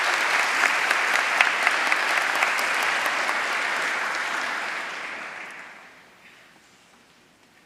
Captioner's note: applause